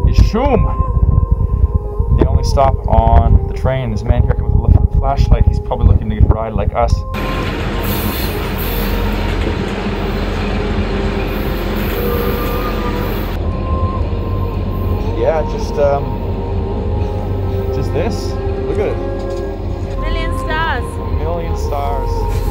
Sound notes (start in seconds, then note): 7.3 calm vocal music; 7.3 train whirs and screeches; 22.2 calm vocal music